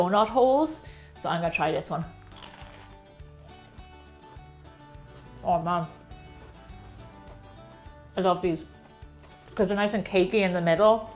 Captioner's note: crunch!